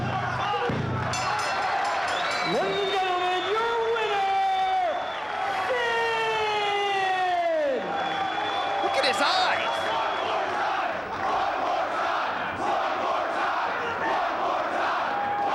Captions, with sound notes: (bell rings) Ladies and gentlemen, your winner, Sid! Look at his eyes! (crowd chants "One more time")